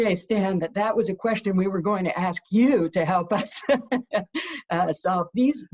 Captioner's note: laughs